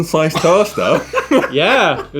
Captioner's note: laughing